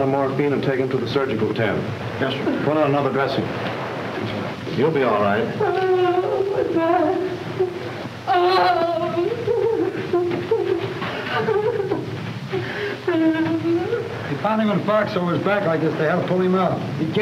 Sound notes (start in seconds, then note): 9.3 sobbing